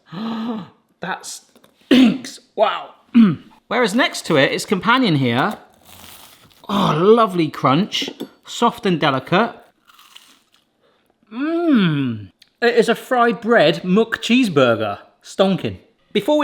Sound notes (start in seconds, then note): 0.0 gasps; 3.1 clears throat; 6.1 burger crunches; 9.6 burger crunches